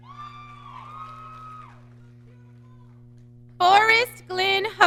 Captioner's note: audience cheering